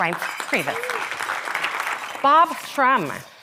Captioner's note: audience applauding